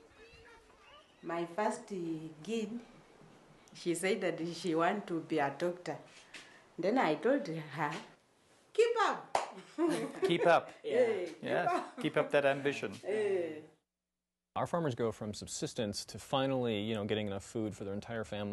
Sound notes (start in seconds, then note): 9.6 laughter